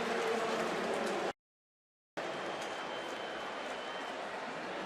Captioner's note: announcer on pa